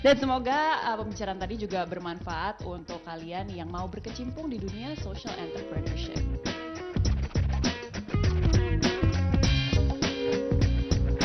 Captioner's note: non-english speech